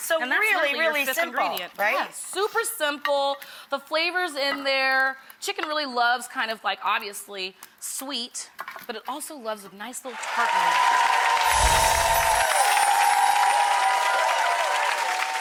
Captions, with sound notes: And that's literally your fifth ingredient. So they're really simple right? Yeah, super simple, the flavors in there, chicken really loves kind of like obviously, sweet, but it also loves a nice little tartness. (cheers and applauds) (angelic music)